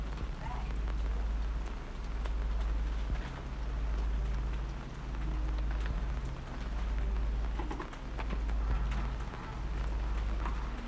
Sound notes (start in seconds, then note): none